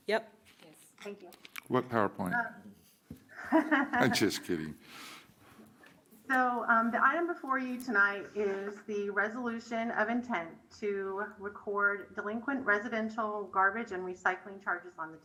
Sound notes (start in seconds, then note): 3.3 laughter